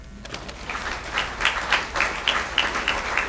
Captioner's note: applause